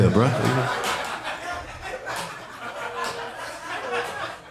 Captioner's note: audience laughing